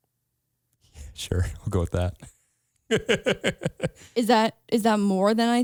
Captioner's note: laughs